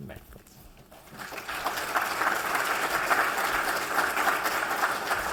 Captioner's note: applause